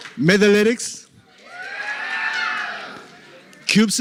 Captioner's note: cheering